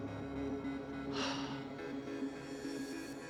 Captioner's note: sighs